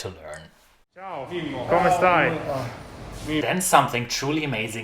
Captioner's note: speaking in foreign language